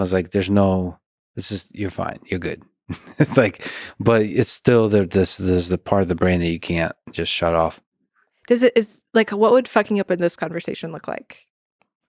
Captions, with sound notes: as like, there's no, this is, you're fine, you're good. (laughs) It's like, but it's still there's the part of the brain that you can't just shut off. - Like what would fucking up in this conversation look like?